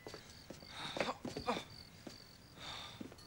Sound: <i> grunts</i>

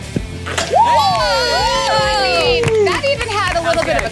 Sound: group cheers

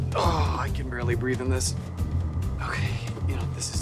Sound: groans

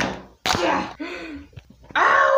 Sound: gasp

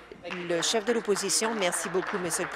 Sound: applause

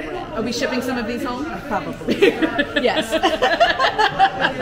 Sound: laughter

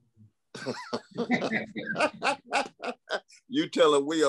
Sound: laughter

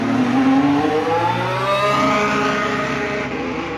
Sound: engine revs

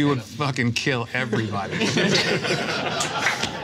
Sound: all laugh

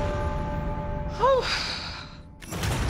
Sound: exhales

